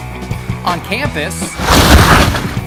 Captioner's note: splashing